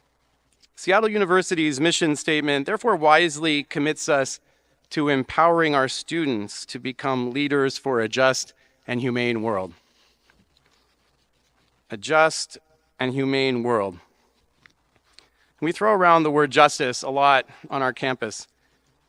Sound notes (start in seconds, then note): none